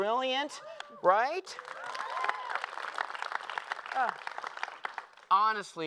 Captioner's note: applause